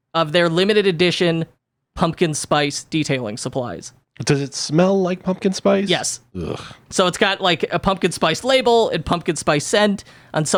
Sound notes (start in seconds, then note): 6.3 groans